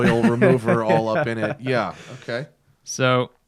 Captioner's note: laughter